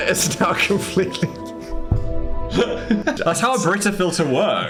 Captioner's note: Dan and Phil laugh